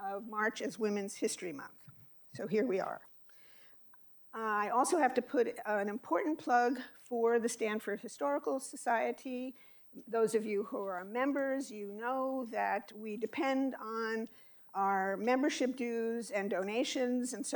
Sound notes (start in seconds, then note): none